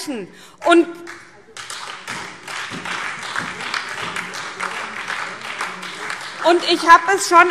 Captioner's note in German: Beifall SPD, Freie Demokraten und DIE LINKE